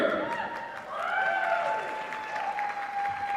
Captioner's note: applause